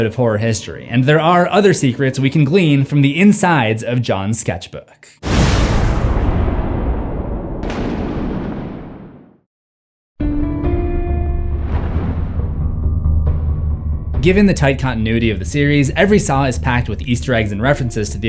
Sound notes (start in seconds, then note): 5.2 thunder